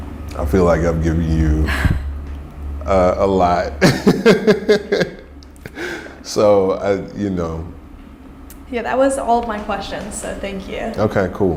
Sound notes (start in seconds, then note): 3.8 laughing